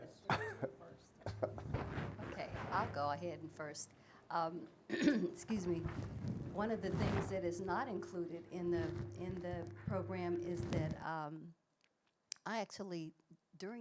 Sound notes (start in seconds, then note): 1.2 laughing; 4.9 clears throat